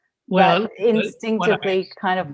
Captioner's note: audio warbles